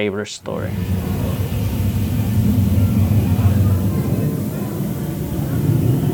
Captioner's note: growling and hissing; water dripping from the ceiling